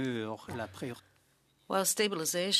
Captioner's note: speaking French